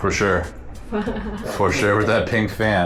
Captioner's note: laughs